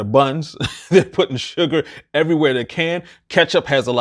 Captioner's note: chuckles